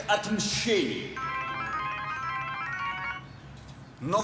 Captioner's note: phone rings